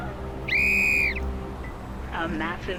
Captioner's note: whistle blowing